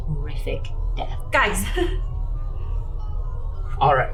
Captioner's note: laughs nervously